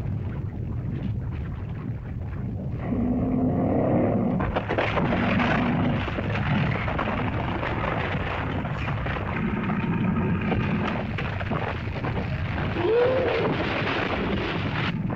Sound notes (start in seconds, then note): 0.0 volcano rumbling & lava hissing; 2.8 lizard growls; 4.7 rumbling sound; 4.7 splitting sound; 12.8 lizard bellows; 14.9 earth rumbles